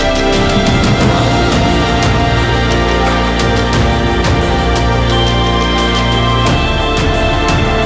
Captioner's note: waterfall